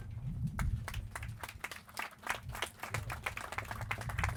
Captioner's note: clapping